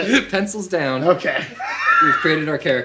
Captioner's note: laughs